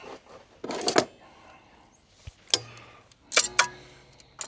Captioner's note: metal clanking